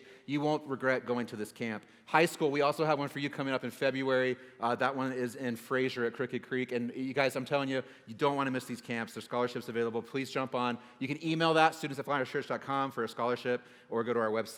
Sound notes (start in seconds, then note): none